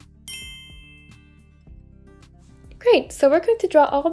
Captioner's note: bell rings